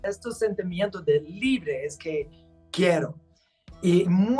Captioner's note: speaking Spanish